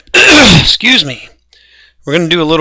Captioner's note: coughs